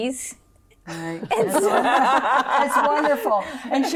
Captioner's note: laughing